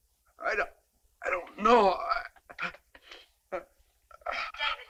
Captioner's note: groaning